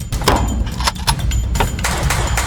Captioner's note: commando 21 year old shooting in the background